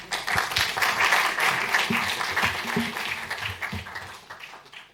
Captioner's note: applause